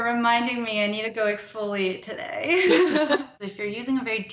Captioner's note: both laugh